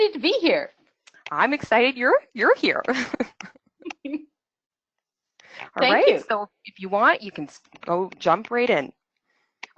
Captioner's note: laughs